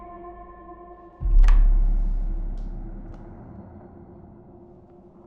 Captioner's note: switch clicking